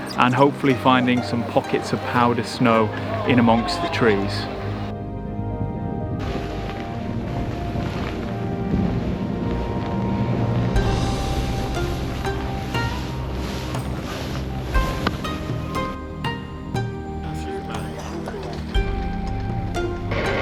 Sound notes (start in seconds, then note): 6.0 snow crunching; 6.9 dramatic music; 11.8 lively music; 11.8 snow crunching